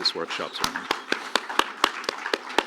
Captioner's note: applause